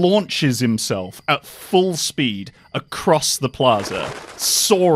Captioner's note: wings flapping